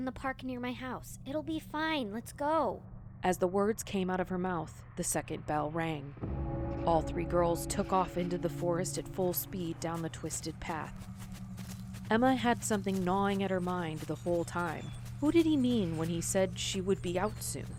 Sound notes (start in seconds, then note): 6.1 distant bell; 11.1 footsteps on leafs